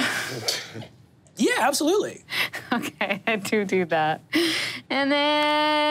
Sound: laughs

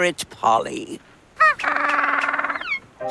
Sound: squeaking

